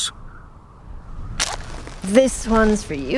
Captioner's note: match lighting